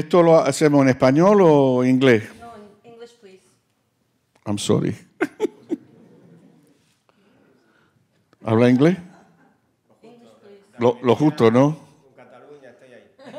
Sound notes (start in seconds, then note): 0.1 speaking Spanish; 9.2 speaking in foreign language; 11.7 speaking Spanish; 13.2 group laughing